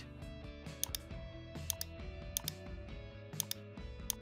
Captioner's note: keyboard clicks